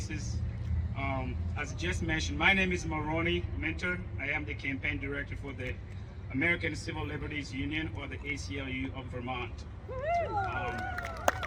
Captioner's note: applause